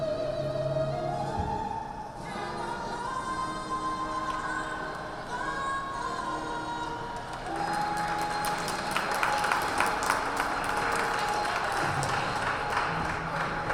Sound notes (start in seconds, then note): 7.1 crowd applauds